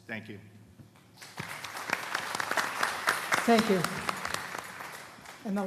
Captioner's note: applause